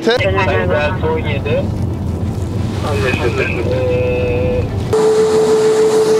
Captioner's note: radio communications